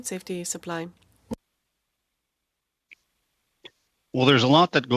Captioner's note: speaking French